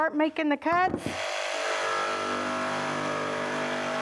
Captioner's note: saw cutting wood